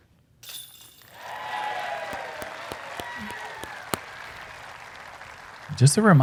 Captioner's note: applause